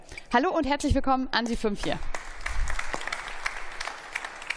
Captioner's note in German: Beifall